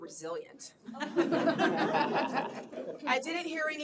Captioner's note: laughter